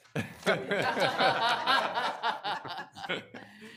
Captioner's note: all laughing